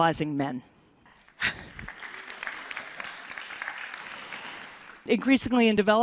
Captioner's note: applause